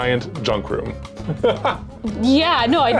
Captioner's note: laughing